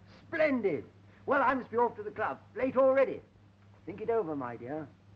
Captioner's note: none